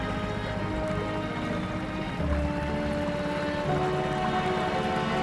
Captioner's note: soft water splashing begins